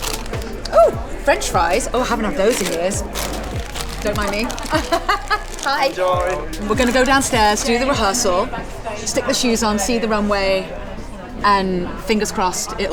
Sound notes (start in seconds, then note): 3.3 laughs